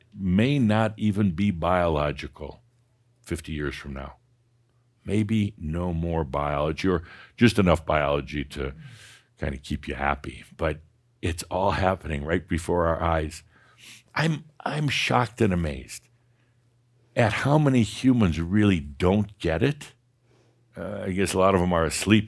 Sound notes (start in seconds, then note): none